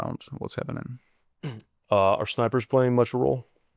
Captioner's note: clears throat